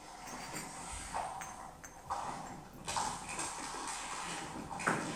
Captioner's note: glass clinking